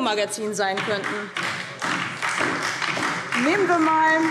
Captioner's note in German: Beifall DIE LINKE und vereinzelt SPD